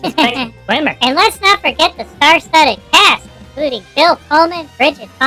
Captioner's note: giggling